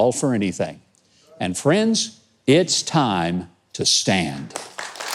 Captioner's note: audience applauds